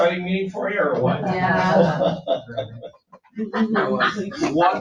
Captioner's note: people chuckling